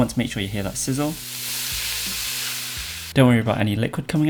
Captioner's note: sizzling sound